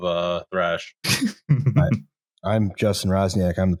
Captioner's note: chuckles